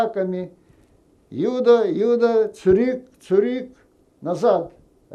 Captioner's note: german